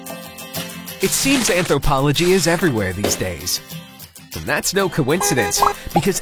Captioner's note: horn honks